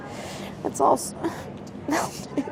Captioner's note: laughs